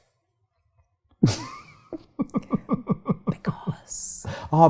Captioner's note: laughing